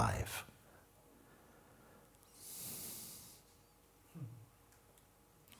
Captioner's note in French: silence